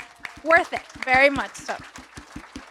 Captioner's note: audience applauds